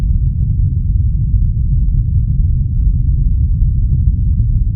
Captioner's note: thunderous boom